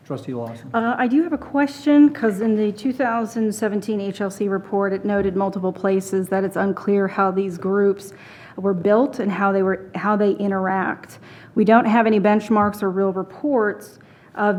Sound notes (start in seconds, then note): none